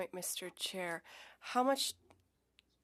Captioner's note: speaking French